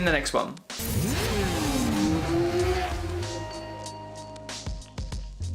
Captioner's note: motorcycle engine revs; upbeat music